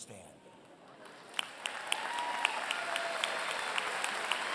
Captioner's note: applause